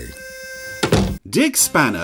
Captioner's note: door slams